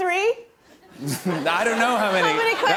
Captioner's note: laughter